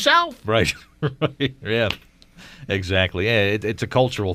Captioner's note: laughs